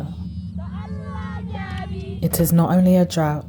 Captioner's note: workers chanting